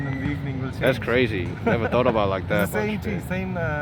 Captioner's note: laughs